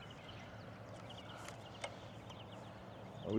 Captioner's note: birds chirping